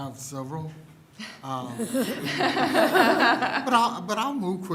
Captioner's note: laughter